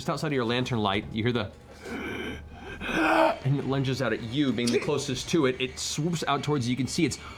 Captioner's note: rasping growl